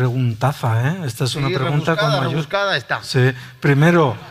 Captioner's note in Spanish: risas